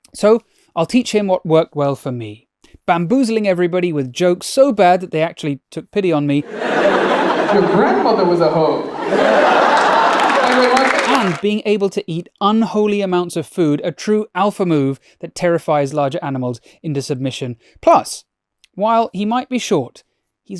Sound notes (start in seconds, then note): 6.4 audience laughing; 9.9 audience applauding